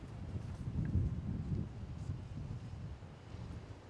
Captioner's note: wind rustling